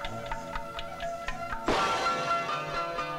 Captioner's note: Pot smashed